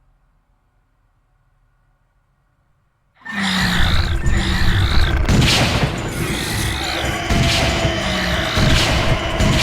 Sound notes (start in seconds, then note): 2.9 gun firing; 3.2 creature growling